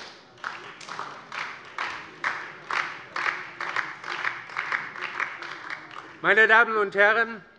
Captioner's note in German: Beifall DIE LINKE und SPD